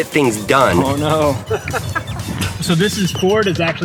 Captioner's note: laughs